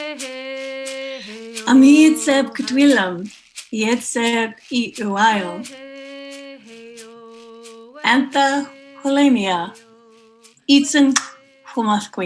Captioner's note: speaking in Hunq’a’min’um